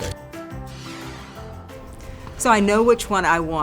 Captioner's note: playful instrumental music; swoosh effect